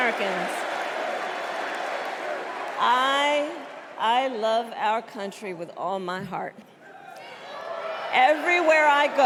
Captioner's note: cheers and applause